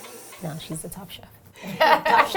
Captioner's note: laughter